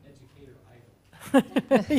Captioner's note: laugh